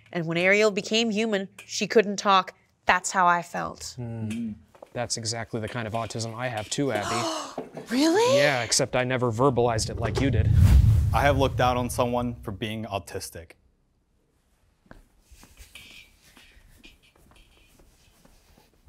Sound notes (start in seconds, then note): 4.0 participants humming in agreement; 7.0 gasping; 16.2 footsteps clicking on floor